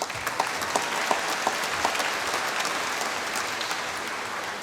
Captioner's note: applause